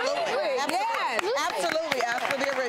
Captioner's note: audience applauding